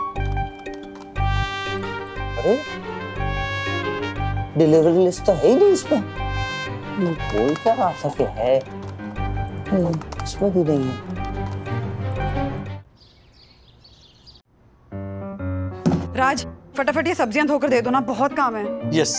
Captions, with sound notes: Hey. The delivery list is not there. He was saying that it was there. It's not here as well. [birds chirping] Raj, wash these vegetables. There's a lot of work to be done.